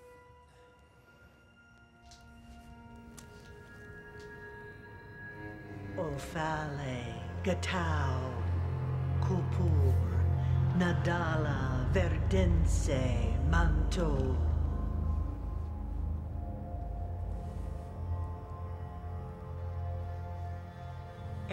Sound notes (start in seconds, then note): 5.9 chanting in foreign language